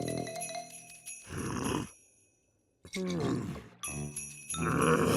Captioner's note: creature growns; starts to laugh slowly